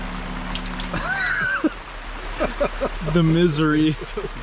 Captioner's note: group laughing